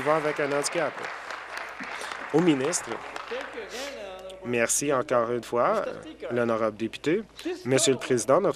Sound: applause

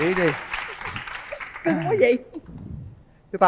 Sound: clap

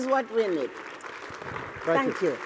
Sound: applause

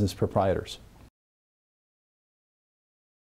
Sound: silence

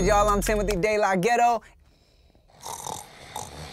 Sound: snoring loudly

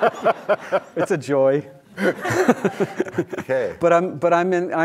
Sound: audience laughing; laughs

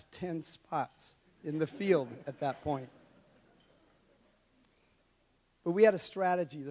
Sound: audience laughs

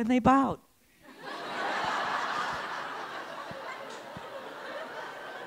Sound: laughter

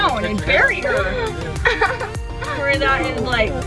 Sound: laughs; mumbles

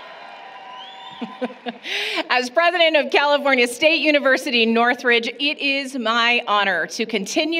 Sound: applause, Cheering; brief laughter

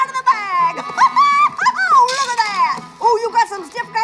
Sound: laughs

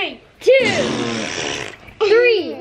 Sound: blowing raspberries

